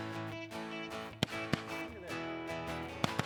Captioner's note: loud gunfire; upbeat country music